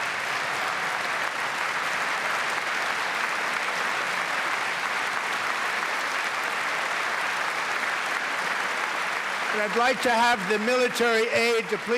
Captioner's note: applause